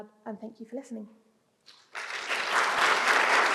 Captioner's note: applause